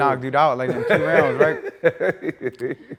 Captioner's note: Stephen laughing